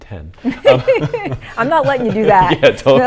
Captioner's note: laughter